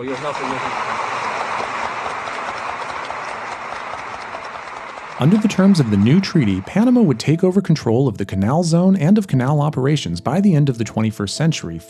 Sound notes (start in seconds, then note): 3.6 applause